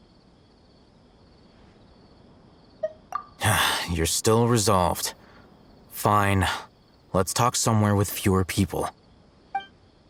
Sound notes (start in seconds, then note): 3.4 sigh